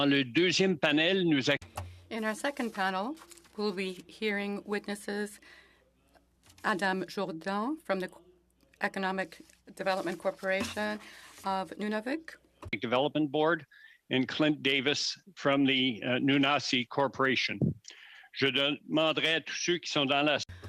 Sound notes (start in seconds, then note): 6.2 speaking French